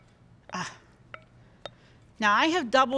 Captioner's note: sighing